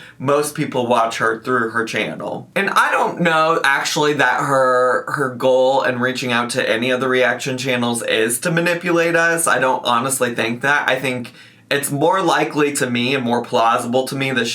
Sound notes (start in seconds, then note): none